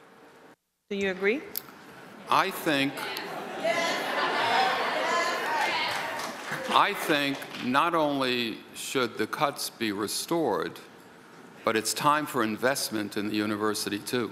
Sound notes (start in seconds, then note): 2.0 crowd; 4.9 audience murmurs in agreement